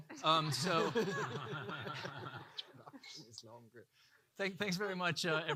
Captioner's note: audience laughing